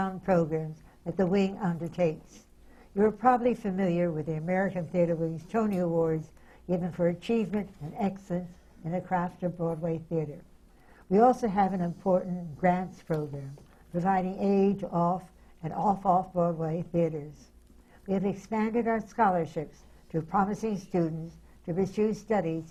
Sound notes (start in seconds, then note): none